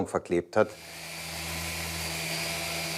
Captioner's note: machine whirring